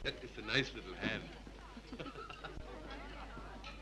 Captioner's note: both chuckle